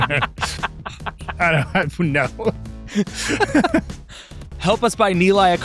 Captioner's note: laughing